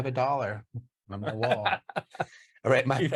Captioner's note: chuckles